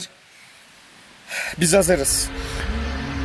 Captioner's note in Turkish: nefes alır